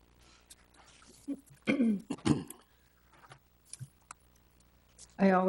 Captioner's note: clears throat